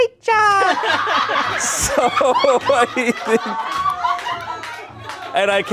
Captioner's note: everyone laughs